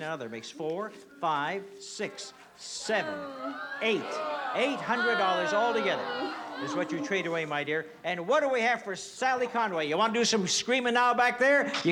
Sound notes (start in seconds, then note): 4.9 groans